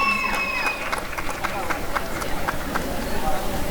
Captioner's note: applause and cheering